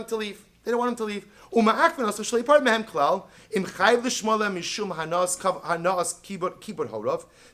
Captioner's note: Hebrew